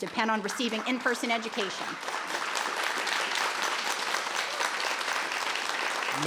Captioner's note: audience applauds